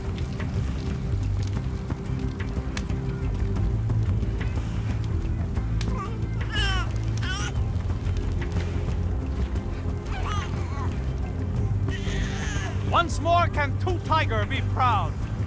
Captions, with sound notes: (intense music) (baby crying) - Once more can Two Tiger be proud!